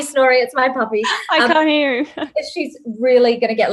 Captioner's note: laughs